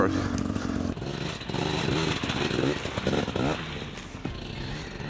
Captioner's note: engine revving; upbeat music